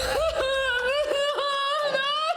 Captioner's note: Ben laughing; Mia crying